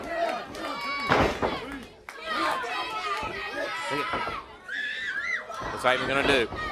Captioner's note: crowd chatter